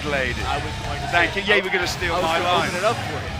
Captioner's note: crowd cheering